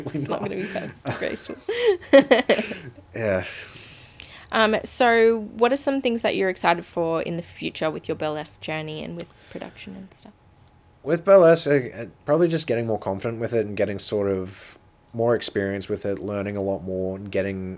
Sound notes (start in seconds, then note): 2.7 laughing